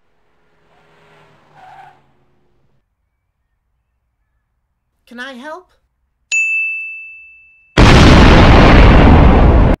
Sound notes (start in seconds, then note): 6.3 ding; 7.8 explosion